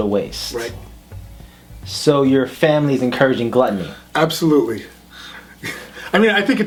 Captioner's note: laughs